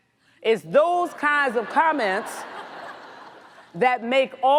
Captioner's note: audience laughs